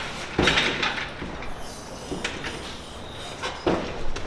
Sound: metal clanking

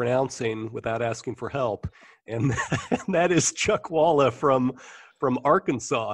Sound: chuckle

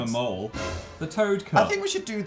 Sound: dramatic noise

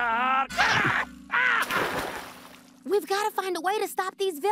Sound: screams

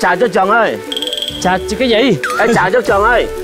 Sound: speaking ethnic language

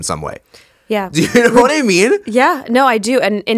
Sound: laughs

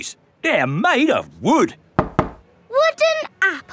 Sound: knocks

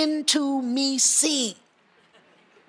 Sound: audience chatter

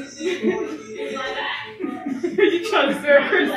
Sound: laughs

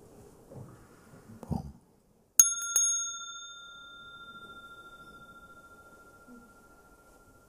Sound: rings the bell

